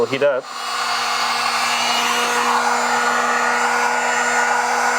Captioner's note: machine whirring